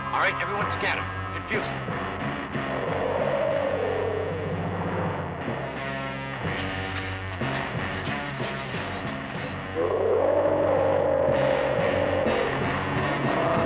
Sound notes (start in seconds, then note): 2.4 dinosaur roaring; 3.7 intense dramatic music